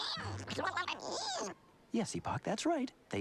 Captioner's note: squeaking